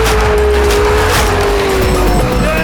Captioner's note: bags crunching